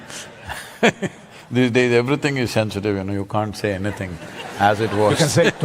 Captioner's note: laughs; laughter